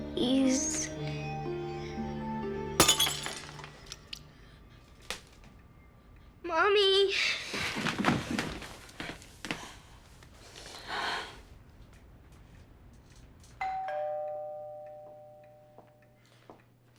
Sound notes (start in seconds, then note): 2.8 glass shatters; 13.6 doorbell rings